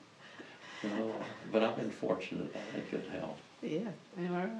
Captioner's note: laughs